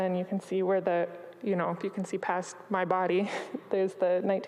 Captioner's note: chuckles